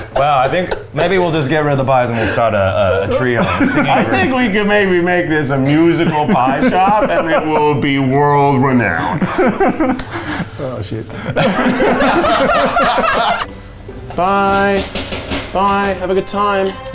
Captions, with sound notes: - Well, I think, maybe we'll just get rid of the pies, and we'll start a trio men's singing group. - I think we can maybe make this a musical pies job, and it will be world-renowned. - (laughing) Oh, shit. (all laughing) (whimsical music) - Bye, bye have a good time.